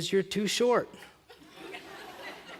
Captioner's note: laughter